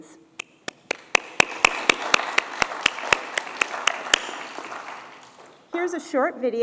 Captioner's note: applause